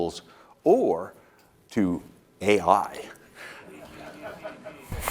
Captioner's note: laughter